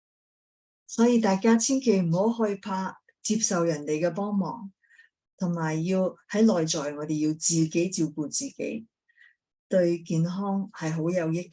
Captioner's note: speaking chinese